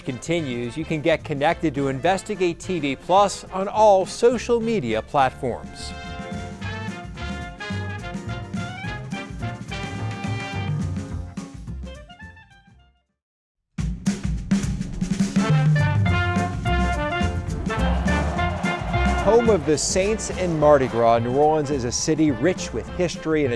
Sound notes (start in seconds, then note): 5.8 festive music continues; 16.9 audience cheering